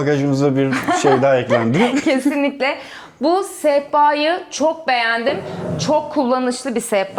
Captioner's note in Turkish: kahkaha